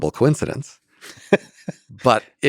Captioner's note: Lex laughs